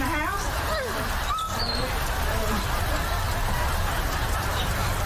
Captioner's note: laughing; dog whining